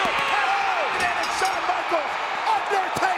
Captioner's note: crowd cheers; bell rings